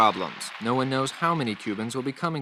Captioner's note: archival news audio